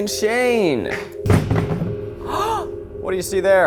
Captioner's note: phone clatters; gasps